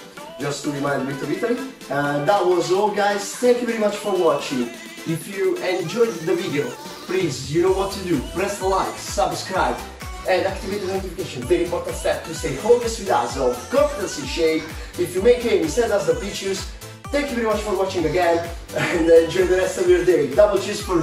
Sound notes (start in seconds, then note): 18.7 chuckles